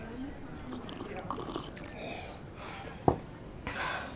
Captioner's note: slurping